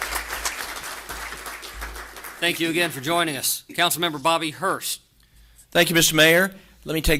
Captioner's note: applause